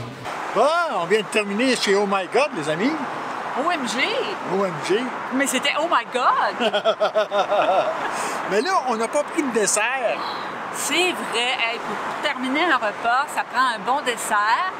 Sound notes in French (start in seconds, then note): 6.5 rire